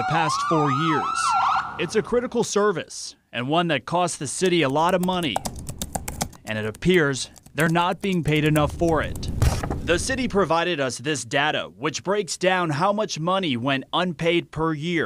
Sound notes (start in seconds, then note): 0.0 sirens